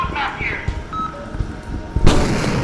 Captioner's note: footsteps